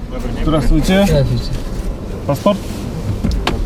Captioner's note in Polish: rozmowa po rosyjsku